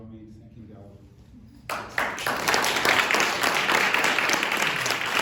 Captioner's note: applause